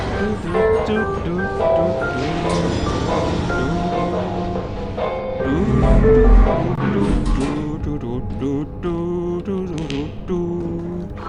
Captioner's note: humming along the elevator music